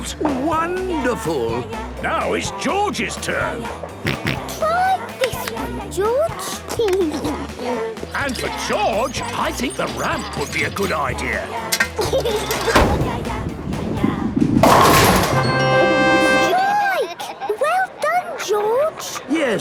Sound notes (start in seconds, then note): 3.6 George snorts; 6.0 giggles